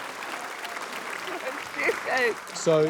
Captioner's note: cheers, applause; chuckles